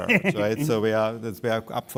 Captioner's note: laughs